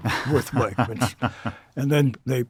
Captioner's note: laughing